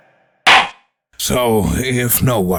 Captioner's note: gavel slams!